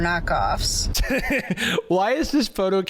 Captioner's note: laughs